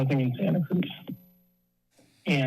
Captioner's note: pause